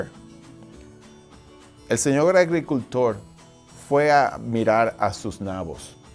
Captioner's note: speaking foreign language